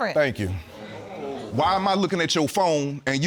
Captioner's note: audience murmuring